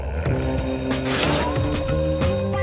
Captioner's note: the bell rings